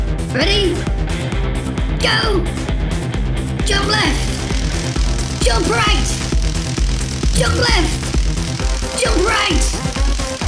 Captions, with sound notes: Ready? Go! Jump left! [Electricity crackling] Jump right! [Electricity crackling] Jump left! [Electricity crackling] Jump right! [Electricity crackling]